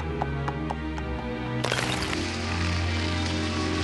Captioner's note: crackling